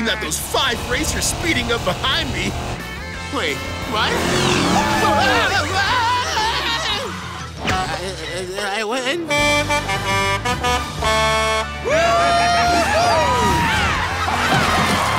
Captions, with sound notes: especially not those five racers speeding up behind me. Wait, what? Whoa! Whoa! [groaning] Did I win? [honking] Whoo-hoo!